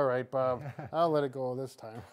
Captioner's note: laughing